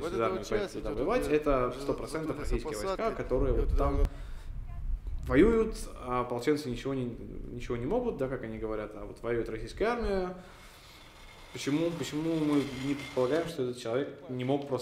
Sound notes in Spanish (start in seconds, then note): none